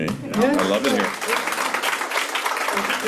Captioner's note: applause